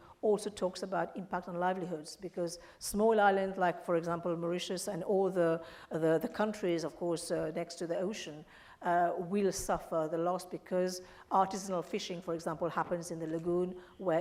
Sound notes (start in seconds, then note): none